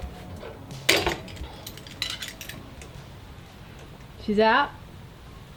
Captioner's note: clammering